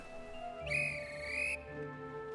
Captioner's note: guard blows whistle